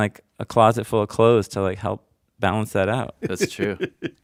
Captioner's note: laughs